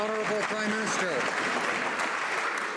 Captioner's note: some Applause